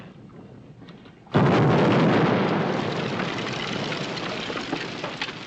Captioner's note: explosion